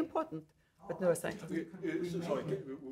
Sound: faintly speaking

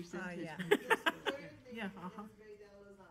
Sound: laughter

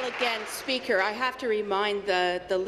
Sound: applause

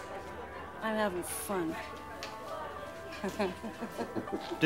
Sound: laughing

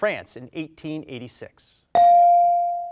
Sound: bell rings

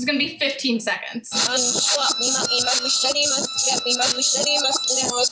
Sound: reversed audio

